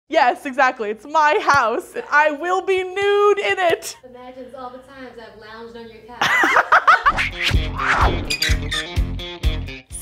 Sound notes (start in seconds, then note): 6.2 laughing; 7.1 upbeat guitar music